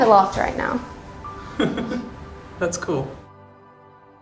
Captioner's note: laughs